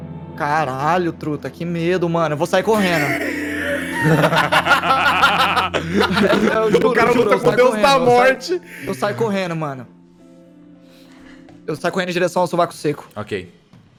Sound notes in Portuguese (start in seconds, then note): 2.7 risada